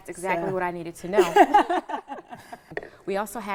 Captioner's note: laughing